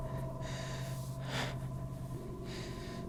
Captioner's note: inhales and exhales